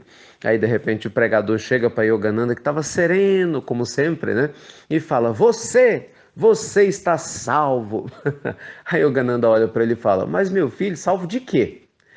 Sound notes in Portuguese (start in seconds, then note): 8.0 risos